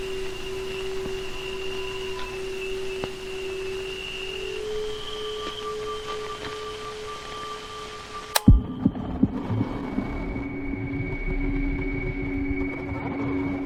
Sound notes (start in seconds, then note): 8.3 tape stops